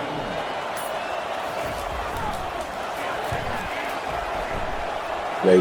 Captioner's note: crowd Noises